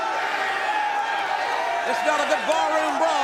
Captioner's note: crowd chattering